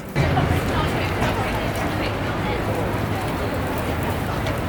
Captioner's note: background chattering